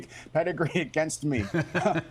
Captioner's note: laughter